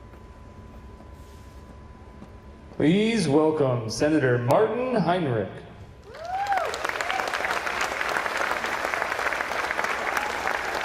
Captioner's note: applause